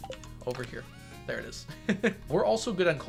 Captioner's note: giggles